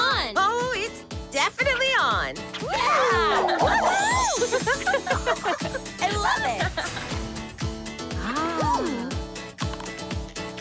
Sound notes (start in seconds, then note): 2.7 cheering; 3.2 laughing; 8.0 gasping